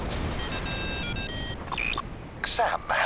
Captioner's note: phone ringing